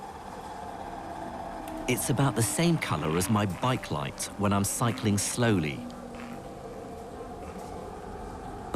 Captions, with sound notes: - [Voiceover] It's about the same color as my bike light when I'm cycling slowly.